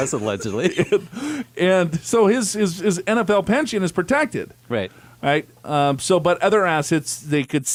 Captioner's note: laughs